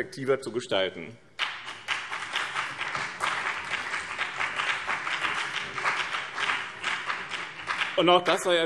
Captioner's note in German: Beifall BÜNDNIS 90/DIE GRÜNEN